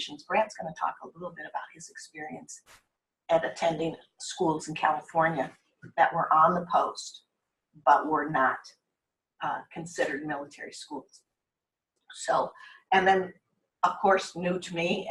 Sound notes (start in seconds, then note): none